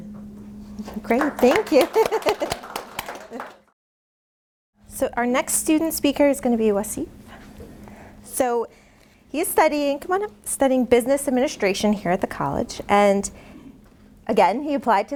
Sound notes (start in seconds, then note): 1.4 laughing; 2.9 applause